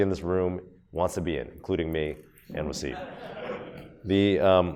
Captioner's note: audience laughs